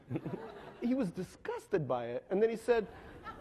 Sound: laughing

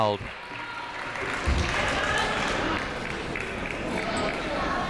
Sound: crowd applauding

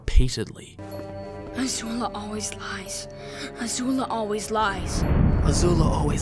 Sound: breathing heavily

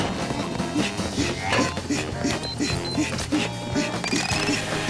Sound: panting

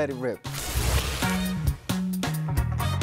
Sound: paper rips

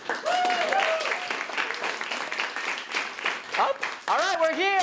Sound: audience cheering

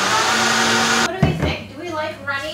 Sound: blender whirring

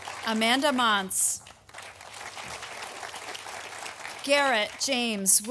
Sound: audience applauding

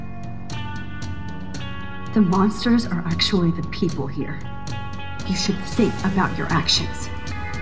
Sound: none

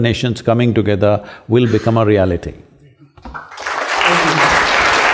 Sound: applause

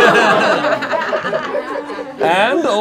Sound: laughing

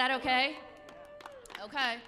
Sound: audience claps

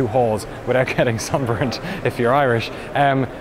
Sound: laughs

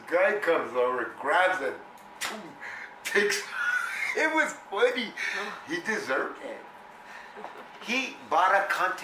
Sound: laughs

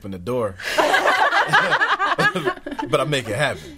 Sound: all laughing

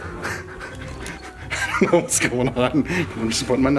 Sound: chuckling

